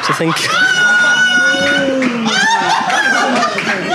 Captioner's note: audience groaning; audience laughing